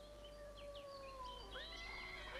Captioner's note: birds chirping; horse neighs